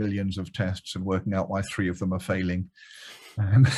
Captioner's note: chuckles